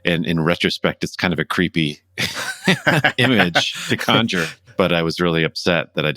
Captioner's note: laughter